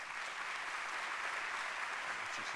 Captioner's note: applause